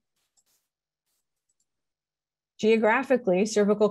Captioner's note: mouse clicks